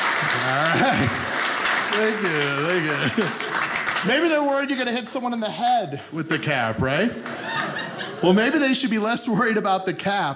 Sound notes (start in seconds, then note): 0.0 audience cheering; 0.0 audience clapping